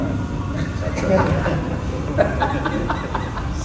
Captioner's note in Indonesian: tertawa